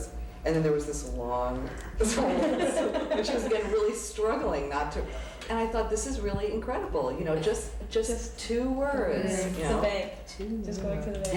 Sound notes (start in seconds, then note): 9.6 murmurs agreeing